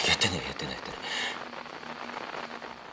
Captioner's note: static grows in volume